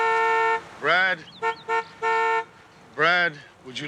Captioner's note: car horn honks; honking